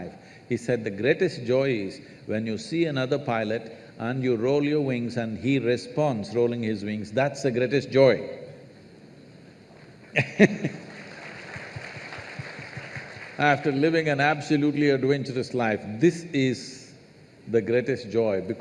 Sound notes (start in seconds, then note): 10.1 laughs; 10.7 applause